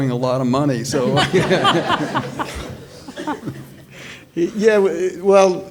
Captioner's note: all laughing